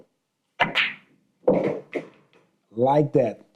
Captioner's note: balls clacking